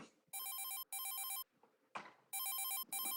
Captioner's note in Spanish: Suena el celular